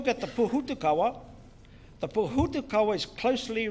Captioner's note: speaks in foreign language